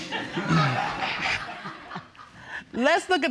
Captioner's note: audience laughs